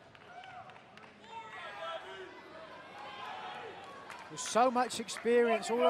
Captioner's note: crowd chatter